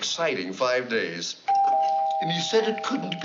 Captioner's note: doorbell